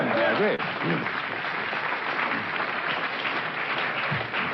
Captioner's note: crowd cheers